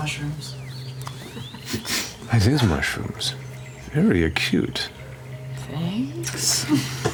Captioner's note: sniffs